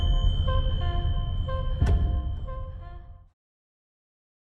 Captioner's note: bell ringing; horn lightly honking